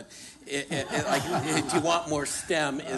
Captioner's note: laughter